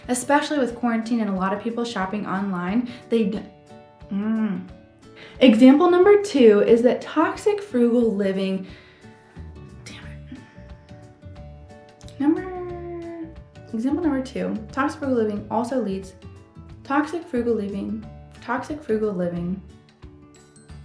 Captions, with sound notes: Especially with quarantine and a lot of people shopping online, they- (groaning) Example number two is that toxic frugal living- Damn it. (lively music) Number... Example number two, toxic frugal living also leads- Toxic frugal living. Toxic frugal living.